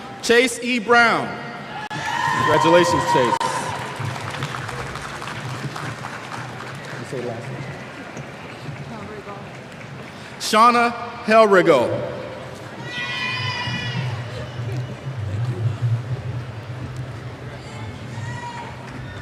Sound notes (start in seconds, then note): 3.6 applause; 12.8 cheers